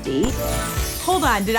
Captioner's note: confetti chiming